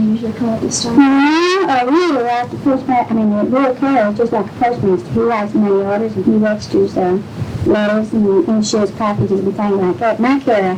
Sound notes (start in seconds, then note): none